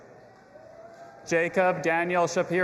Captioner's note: audience applauding and cheering